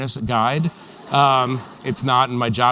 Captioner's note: laughter